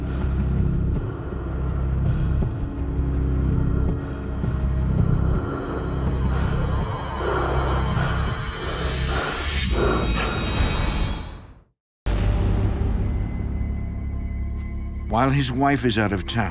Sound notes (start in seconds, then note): 9.5 gasping; 12.1 eerie music